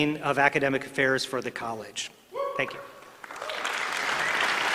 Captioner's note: applause